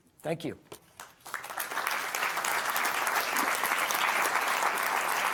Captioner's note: audience applauding